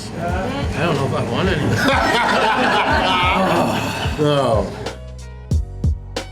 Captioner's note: crowd laughter